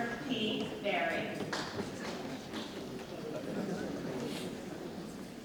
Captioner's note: group chattering